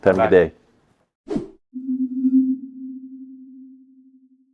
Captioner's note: screen whooshing